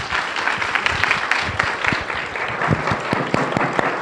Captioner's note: audience applauds